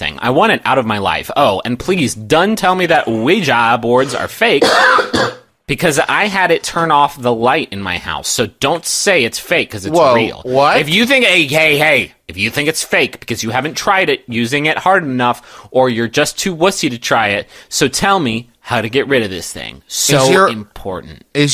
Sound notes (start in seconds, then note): 4.6 coughs